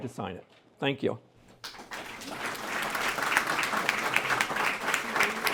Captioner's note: applause